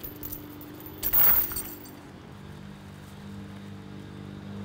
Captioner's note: chains rattling